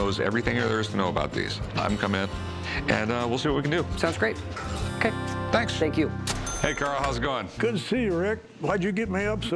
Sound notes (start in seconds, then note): 6.3 ca-ching